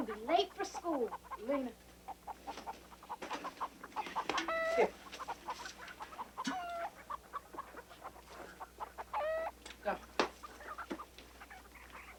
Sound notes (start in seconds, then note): 2.6 chickens clucking